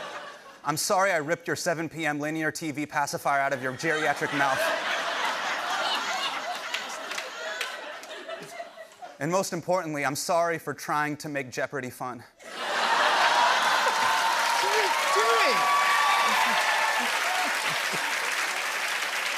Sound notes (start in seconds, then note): 5.0 laughter; 12.4 laughter and applause; 16.1 cheers and applause